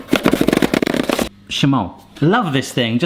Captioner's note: rapid grinding; speaks in foreign language